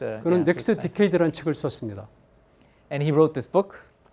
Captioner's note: speaking in Korean